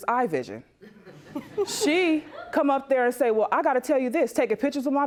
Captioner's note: audience snickers